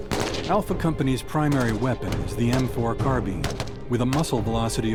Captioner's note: voiceover